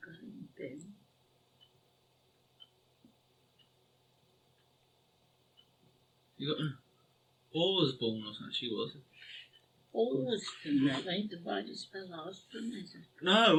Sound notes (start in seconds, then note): 2.3 clock ticking